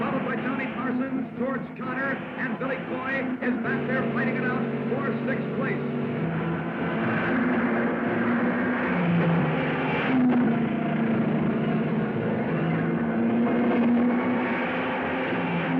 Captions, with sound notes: followed by Tommy Parsons, George Conner, and Billy Coy is back there fighting it out for sixth place. (cars revving) (dramatic music)